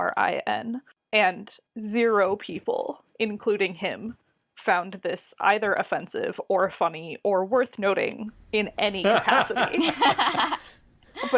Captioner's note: laugh